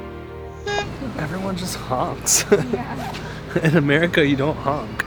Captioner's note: laughing